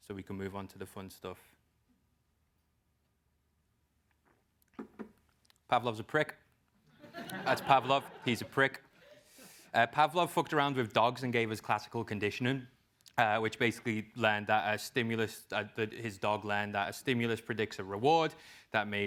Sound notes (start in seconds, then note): 7.0 laugh